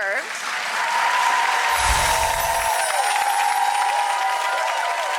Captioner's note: audience clapping